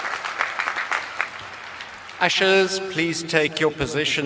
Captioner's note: applause